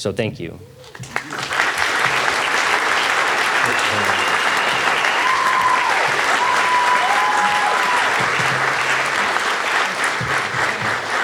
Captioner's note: audience applauding